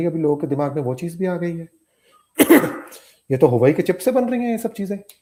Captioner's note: sound of clearing throat